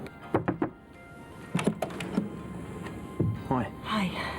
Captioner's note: knocking on door